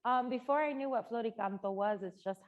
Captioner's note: speaking Spanish